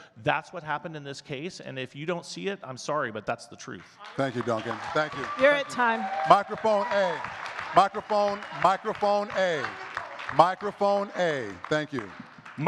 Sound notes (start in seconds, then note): 4.5 audience cheers and claps